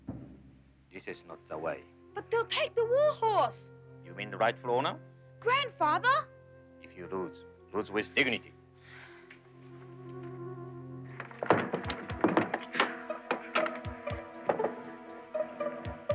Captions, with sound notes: This is not they way. - But they'll take the warhorse. - You mean the rightful owner? - Grandfather! - If you lose, lose with dignity. (stable door banging) (suspenseful music)